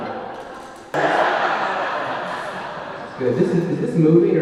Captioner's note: audience laughing